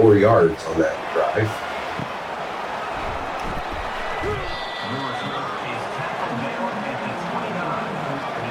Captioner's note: crowd Noises